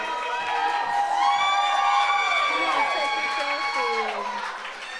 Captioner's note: audience applauds